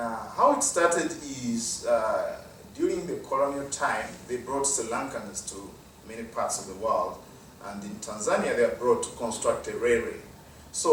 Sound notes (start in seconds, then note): none